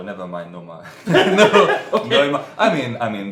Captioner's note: laughs